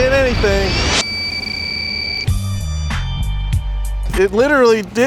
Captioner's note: jammer beeping